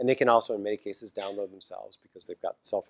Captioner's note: cough